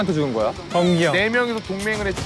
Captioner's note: crying